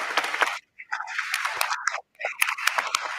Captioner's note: applause